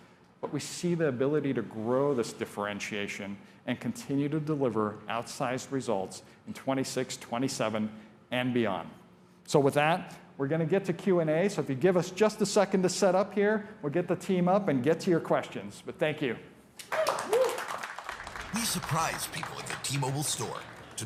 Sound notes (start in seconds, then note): 16.8 applause